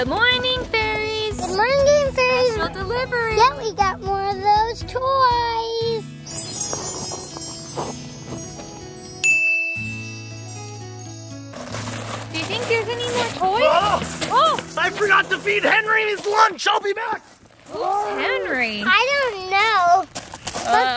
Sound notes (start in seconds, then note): 6.5 twinkling; 13.5 yells